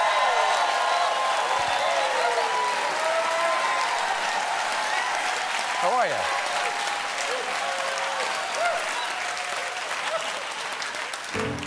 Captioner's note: cheers and applause